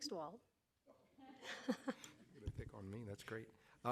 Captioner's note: audience laughing